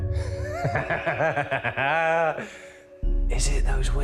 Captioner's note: Danny laughs